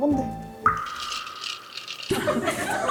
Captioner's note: ice clinking sound